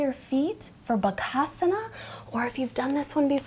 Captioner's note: speaks in foreign language